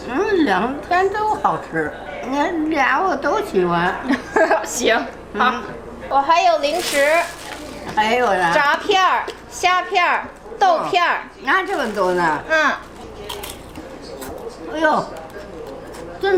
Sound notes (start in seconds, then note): 0.2 grandma speaking Chinese; 4.1 laughs; 6.1 speaking Chinese; 11.5 grandma speaking Chinese; 13.3 chip crunching